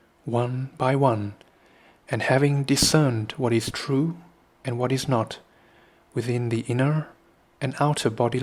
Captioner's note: breath